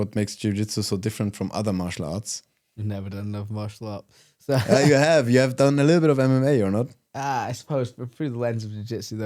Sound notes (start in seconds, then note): 4.5 laughs